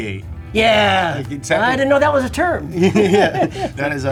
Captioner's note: laughs